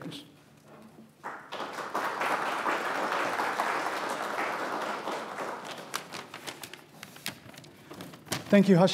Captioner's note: applause